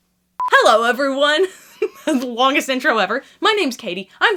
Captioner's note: laughs